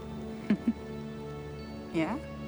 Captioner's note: Jamie chuckles